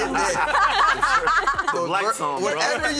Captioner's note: laughter